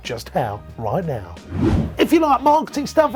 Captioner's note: whooshing